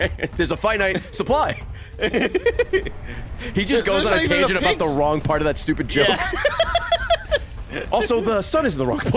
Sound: laughs

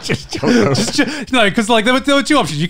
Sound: laughing

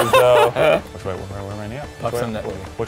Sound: laughs

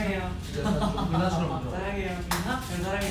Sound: hahaha

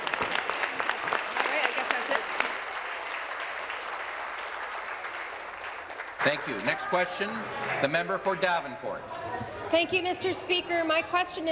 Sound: applause

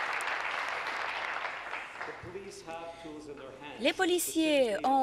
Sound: applause

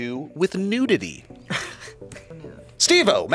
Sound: laughs

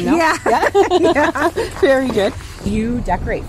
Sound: both laughing

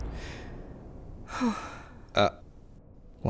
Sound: sighs

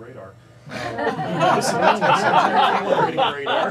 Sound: loud laughter

